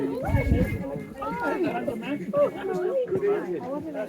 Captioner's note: background chatter